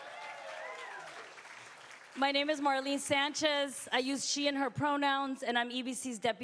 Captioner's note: applause